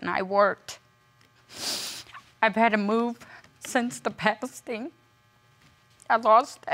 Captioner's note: sniffles; voice trembling